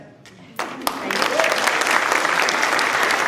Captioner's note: applause